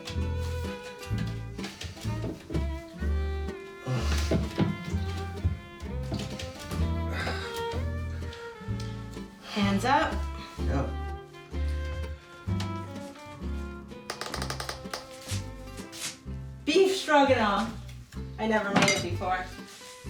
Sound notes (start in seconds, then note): 14.1 door creaking